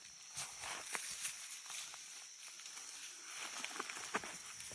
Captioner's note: bushes rustling